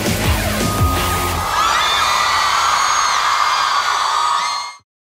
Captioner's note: audience screams